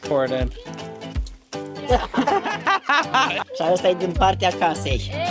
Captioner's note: laughing